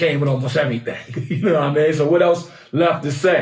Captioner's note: laughs